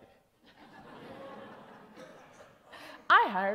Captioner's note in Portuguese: Risos